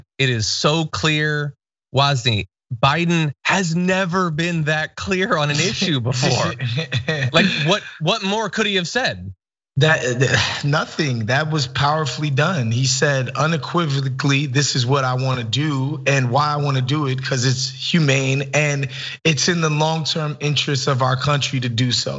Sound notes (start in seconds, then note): 5.2 laugh